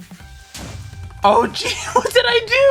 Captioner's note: explosion